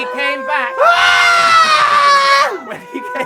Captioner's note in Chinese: 尖叫